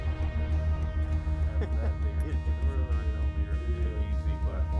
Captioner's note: people laughing